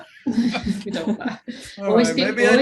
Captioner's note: all laughing